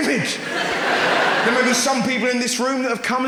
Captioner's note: audience laughs